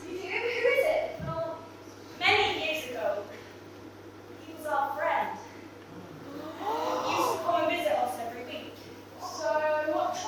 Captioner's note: audience gasps